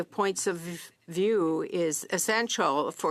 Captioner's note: speaking French